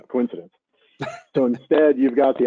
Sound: chuckling

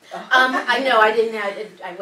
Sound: laugh

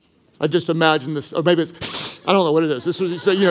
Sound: hissing

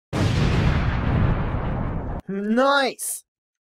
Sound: stock explosion sound effect

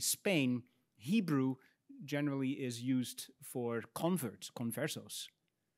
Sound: speaks in Spanish

